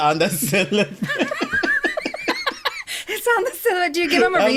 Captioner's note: both laugh